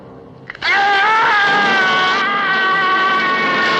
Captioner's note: screaming